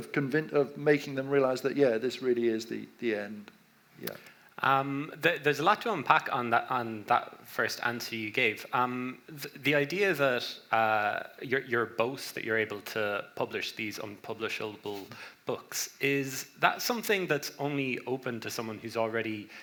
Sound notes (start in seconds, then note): none